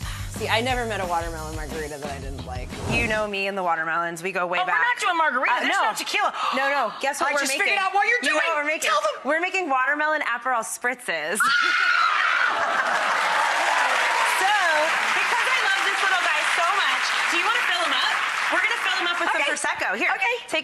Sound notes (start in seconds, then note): 11.4 screaming; 12.4 audience laughing